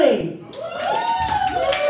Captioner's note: crowd Cheering